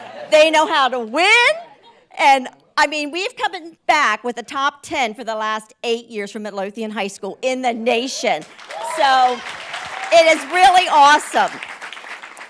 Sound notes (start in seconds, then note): 8.4 group applauds; 8.5 group cheers